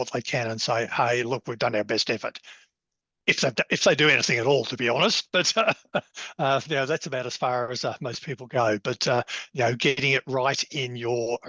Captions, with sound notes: they can and say, hey, look, we've done our best effort. If they do anything at all, to be honest. [Laughs] But now, that's about as far as most people go. But getting it right in your